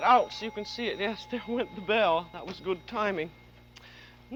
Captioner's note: bell ringing